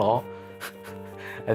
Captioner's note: snickering